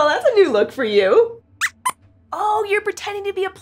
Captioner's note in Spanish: Squeaks chirría